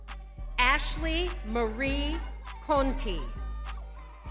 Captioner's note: crowd cheering